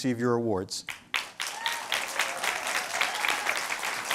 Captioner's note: applause